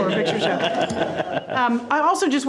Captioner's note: all laughing